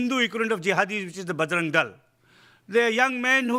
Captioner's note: speaking in foreign language